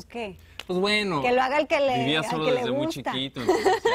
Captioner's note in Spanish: risas